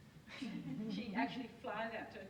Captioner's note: audience laughs